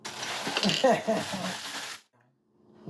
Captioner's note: chuckles